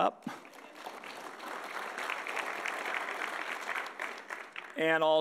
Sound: audience applauding

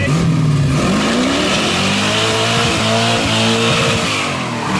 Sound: engine roaring

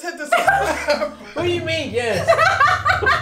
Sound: laughs; everyone laughs

